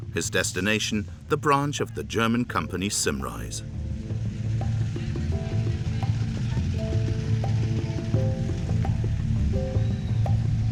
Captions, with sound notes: his destination, the branch of the German company Simrise. (gentle tribal music) (engine chugging)